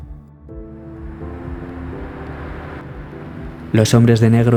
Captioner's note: car